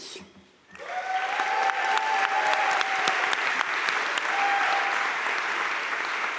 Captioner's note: crowd cheering and applauding